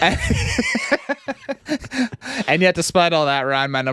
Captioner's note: laughs